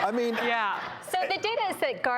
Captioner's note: crowd laughs